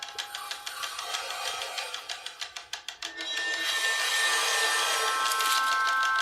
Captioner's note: ticking; ticking